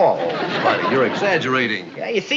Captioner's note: audience laughing